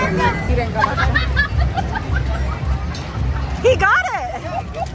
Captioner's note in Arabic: امرأة تضحك